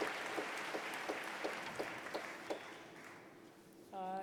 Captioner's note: applause